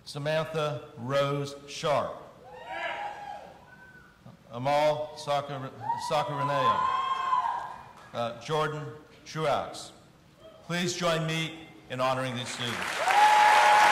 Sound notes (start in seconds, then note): 2.6 audience cheering; 6.6 audience cheering; 12.4 audience applauding; 12.7 audience cheering